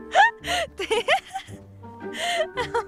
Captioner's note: gasps